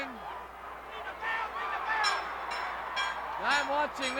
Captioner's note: crowd yelling